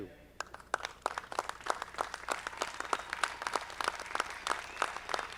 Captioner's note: audience clapping